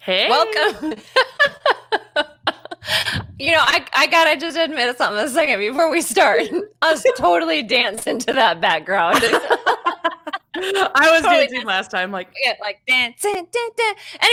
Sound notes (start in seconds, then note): 0.2 laughs; 9.2 both laughing